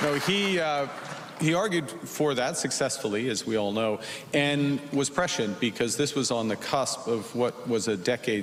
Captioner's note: applause